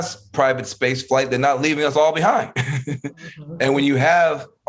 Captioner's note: laughing